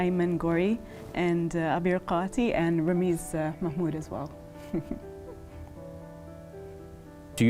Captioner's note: chuckles